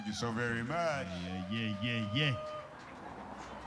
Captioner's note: cheering